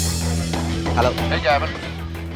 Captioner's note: on phone